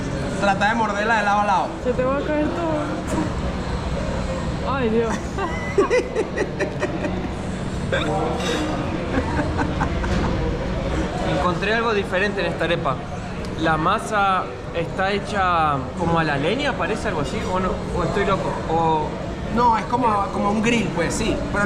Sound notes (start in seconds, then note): 5.0 laughter; 9.0 laughs